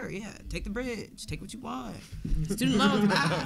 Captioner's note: audience laughing